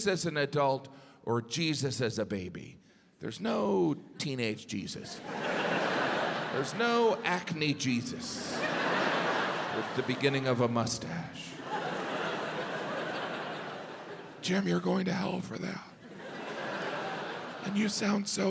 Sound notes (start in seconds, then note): 13.1 audience laughs